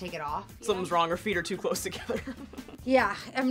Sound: laughs

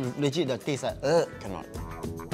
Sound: gags

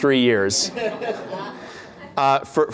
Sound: laughter

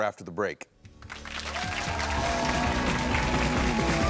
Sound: audience cheering; upbeat music

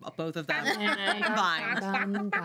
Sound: girls laughing

